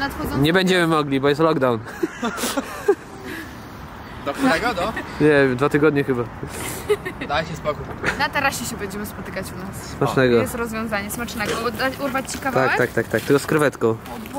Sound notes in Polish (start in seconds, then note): 1.8 śmiech